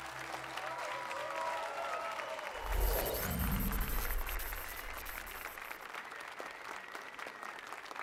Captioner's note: applause and cheers